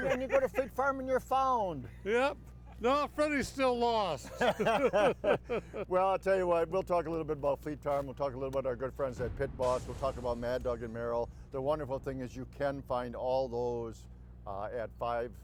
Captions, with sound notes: And then you go to Fleet Farm and you're found. - Yep. No, Freddy's still lost. (group laughs) - Well, I'll tell you what, we'll talk a little bit about Fleet Farm, we'll talk a little about our good friends at Pit Boss, we'll talk about Mad Dog and Merrill. The wonderful thing is you can find all those at five,